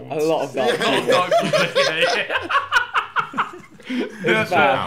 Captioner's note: laughing